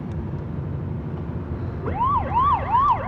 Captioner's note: siren wailing